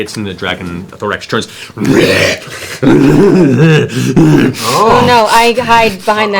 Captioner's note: roars and laughs